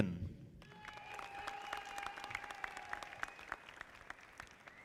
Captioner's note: audience applauding